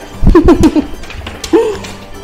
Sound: laughs

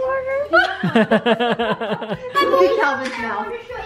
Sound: laughing

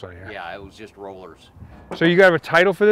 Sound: voiceover

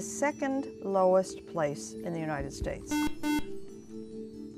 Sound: buzzer

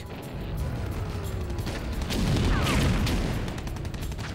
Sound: explosions and gunshots

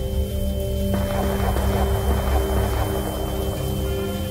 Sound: gunshots cracking

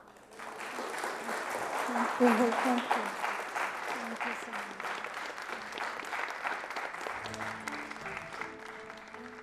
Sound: applause

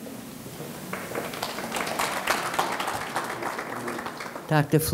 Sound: audience clapping

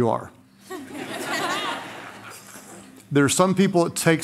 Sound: laughter

